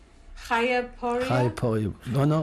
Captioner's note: non-english